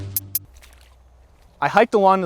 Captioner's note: splashing